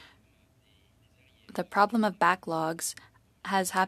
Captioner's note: speaking French